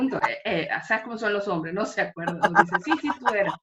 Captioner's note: laughs